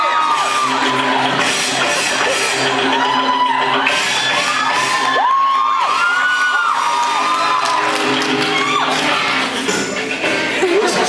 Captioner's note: cheers, applauds